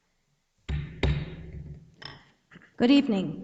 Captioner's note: gavel strikes